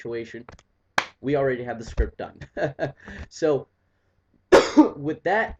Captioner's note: chuckles